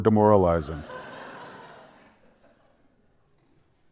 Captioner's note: laughter